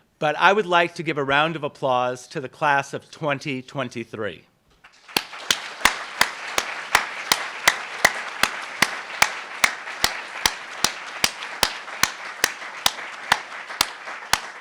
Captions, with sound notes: But I would like to give a round of applause to the class of 2023. (applauds)